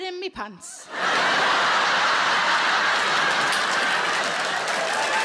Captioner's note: audience laughing